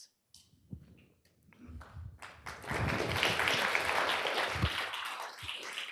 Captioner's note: applause